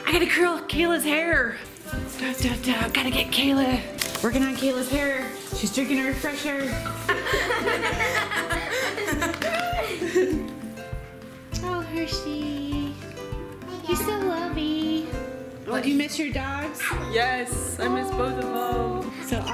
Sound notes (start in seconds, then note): 6.8 laughing